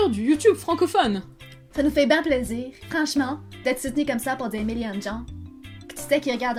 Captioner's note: with a Quebec accent